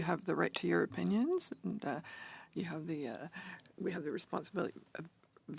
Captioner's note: speaking French